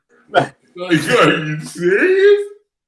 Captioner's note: chuckles